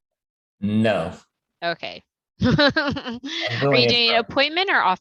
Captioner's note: laughter